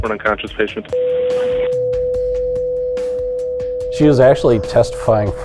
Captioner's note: beep